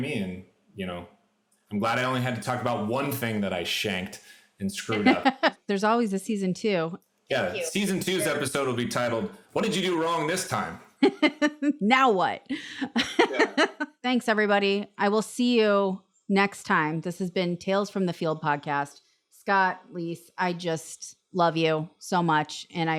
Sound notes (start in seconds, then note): 12.6 laughs